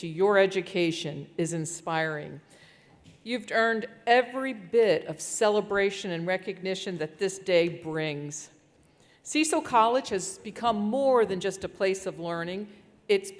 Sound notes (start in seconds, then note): none